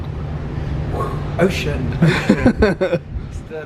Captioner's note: laughs